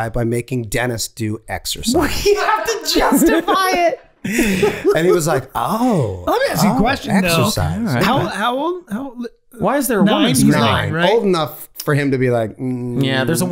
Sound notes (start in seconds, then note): 4.2 Charlie laughing